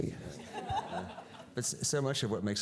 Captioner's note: audience laughing